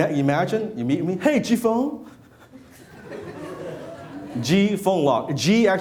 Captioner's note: laughing